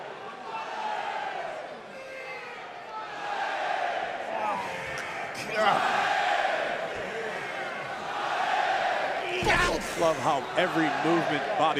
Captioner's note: crowd cheering